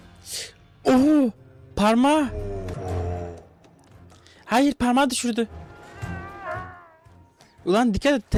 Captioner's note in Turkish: homurdanır